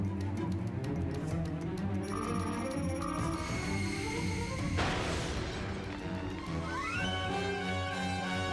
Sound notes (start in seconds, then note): 2.0 beeps; 4.7 crash